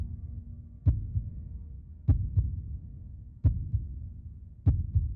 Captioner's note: heartbeat continues thumping